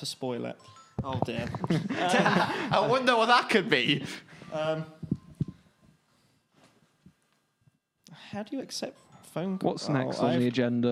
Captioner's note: laughing